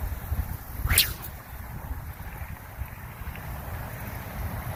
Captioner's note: sling whips loudly